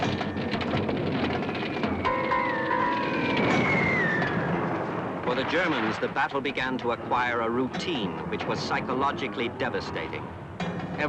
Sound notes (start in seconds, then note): 2.5 explosions; 3.0 shells whistling